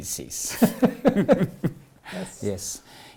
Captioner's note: laughs